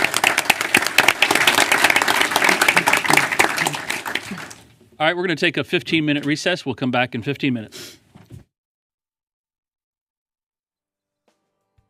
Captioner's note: applause